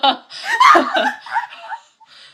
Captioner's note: screaming laughter